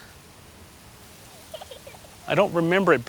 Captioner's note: giggling